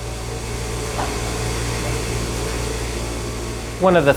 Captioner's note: machine buzzing